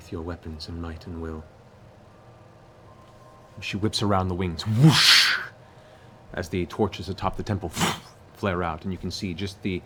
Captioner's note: whoosh